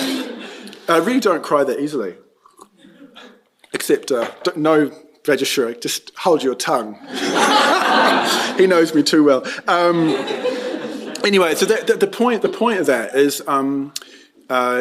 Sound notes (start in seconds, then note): 0.0 laughter; 7.0 laughter